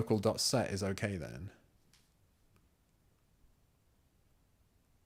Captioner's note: silence